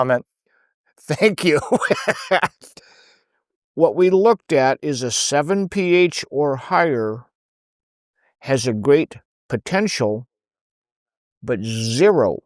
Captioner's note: laughing